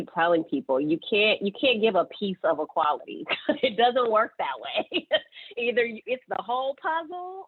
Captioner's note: laughing